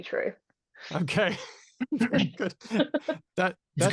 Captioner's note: laughs